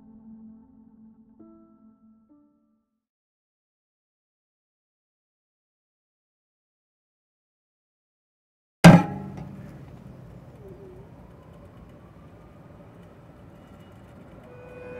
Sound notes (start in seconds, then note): 8.9 dramatic clank; 9.0 distant humming traffic; 10.0 distant siren wailing